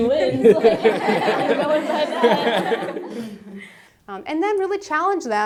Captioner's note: laugh